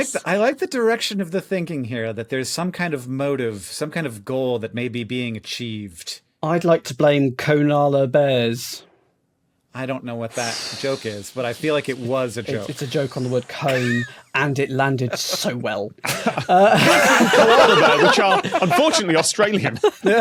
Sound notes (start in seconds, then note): 16.0 group laughing; 16.0 laughs